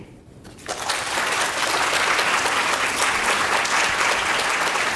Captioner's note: audience applauding